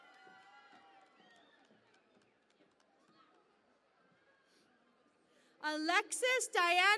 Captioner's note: cheering and Applause